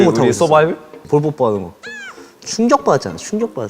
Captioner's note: squeal